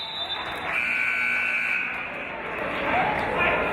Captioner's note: referee's whistle; applause; buzzer